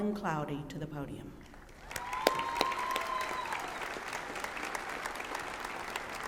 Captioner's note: applause and cheering